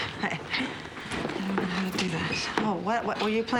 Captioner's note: none